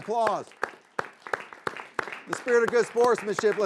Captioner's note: group clapping